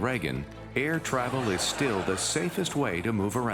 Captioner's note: studio audience laughs